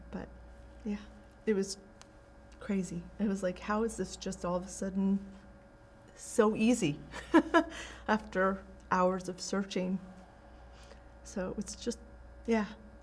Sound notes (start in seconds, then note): 7.1 laughing